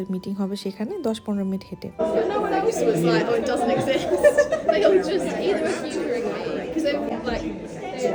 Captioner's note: loud laughter